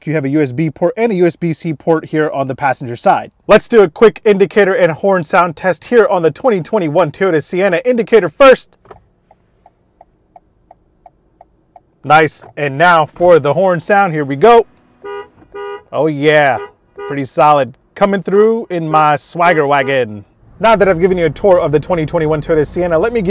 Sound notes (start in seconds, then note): 8.7 indicator clicking; 15.1 car beeping